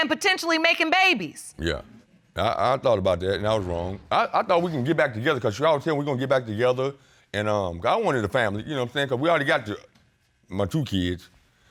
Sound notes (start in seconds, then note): none